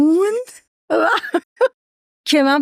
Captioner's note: laughs